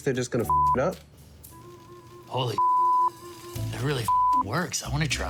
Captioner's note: beep; beep